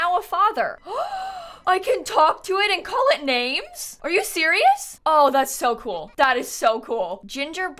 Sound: gasps

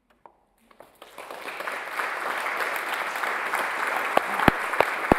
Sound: audience applauds

